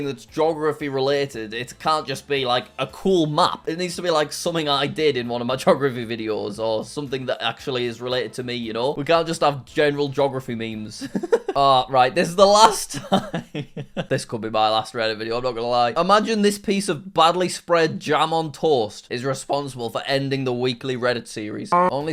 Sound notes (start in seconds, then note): 11.0 chuckles; 12.6 chuckling